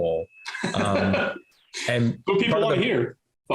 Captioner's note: laughs